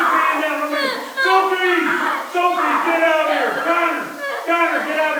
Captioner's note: screaming